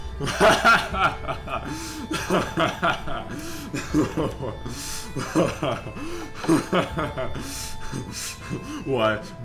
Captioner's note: hearty laughter